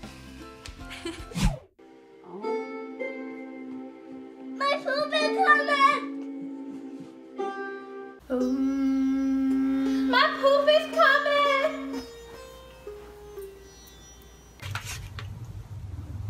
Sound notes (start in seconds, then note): 4.6 child screams